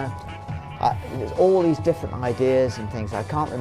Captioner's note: humming tune